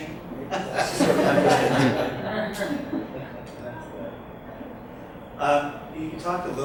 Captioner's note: audience laughs